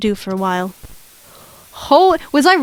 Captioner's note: static